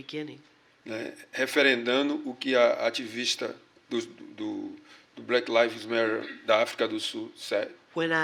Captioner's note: speaking portuguese